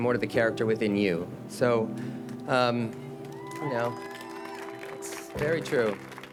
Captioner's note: attendees applaud